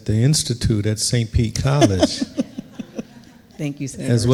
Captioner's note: laughing